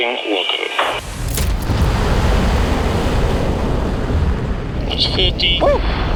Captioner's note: jet whooshing; radio scratching